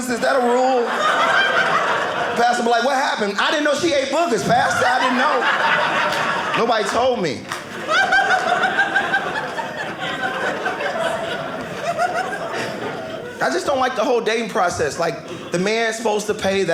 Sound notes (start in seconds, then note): 7.3 audience laughing